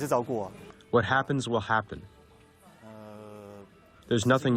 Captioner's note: through translator